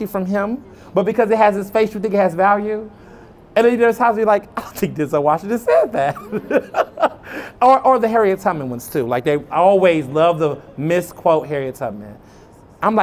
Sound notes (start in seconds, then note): 6.0 laughter